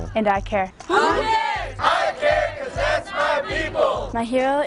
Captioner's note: shouting